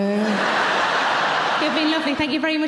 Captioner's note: audience laughing